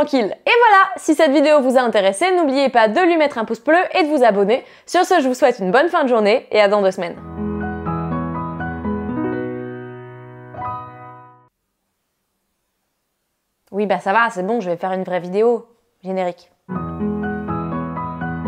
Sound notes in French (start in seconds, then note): 7.2 musique du générique de fin; 11.4 silence